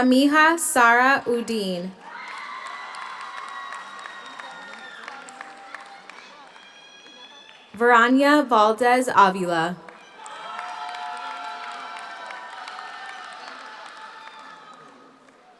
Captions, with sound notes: Samiha Sarah Uddin. (audience cheers) (audience applauds) Verania Valdez Avila. (audience cheers) (audience applauds)